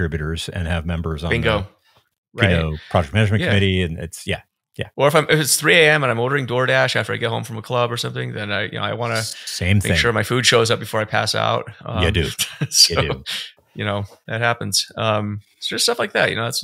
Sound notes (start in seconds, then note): 11.9 chuckles